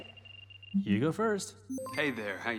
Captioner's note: system beeps